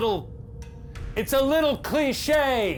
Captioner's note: none